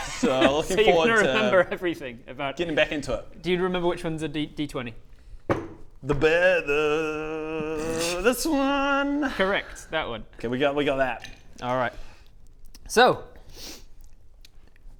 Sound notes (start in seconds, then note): 6.5 sniggering